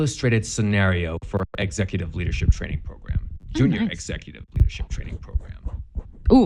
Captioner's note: weird ASMR Noises